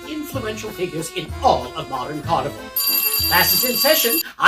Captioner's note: sound of schoolbell